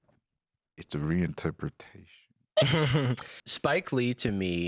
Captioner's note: laughs